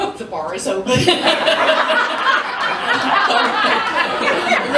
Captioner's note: laughter